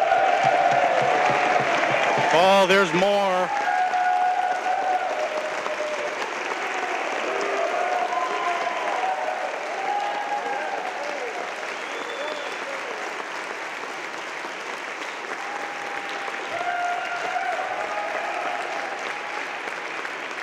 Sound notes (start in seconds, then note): 6.9 applause; 6.9 cheering; 15.6 applause